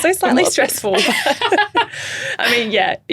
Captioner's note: chuckling